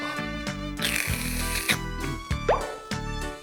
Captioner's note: slurp